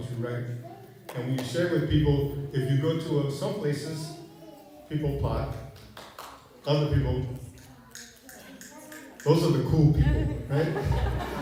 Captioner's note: snaps fingers; laughter